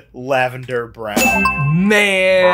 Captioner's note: bell dings